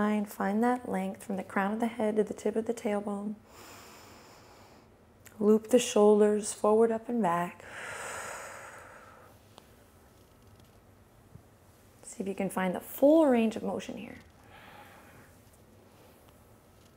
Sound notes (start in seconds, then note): 3.6 inhales; 7.6 exhales